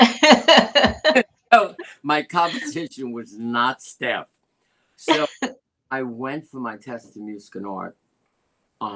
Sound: laughter

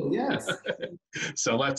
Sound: chuckles

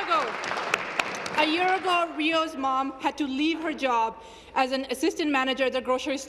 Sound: applause

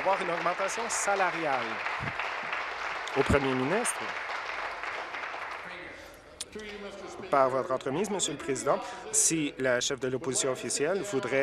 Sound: applause

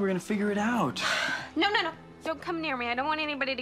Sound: sighs

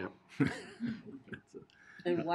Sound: laughing

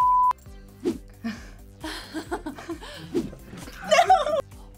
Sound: both laugh

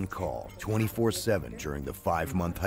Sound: voiceover

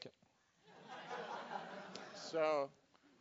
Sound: laugh

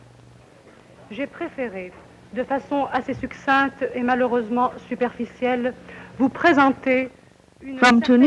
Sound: speaking French

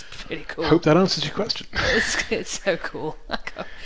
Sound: chuckles

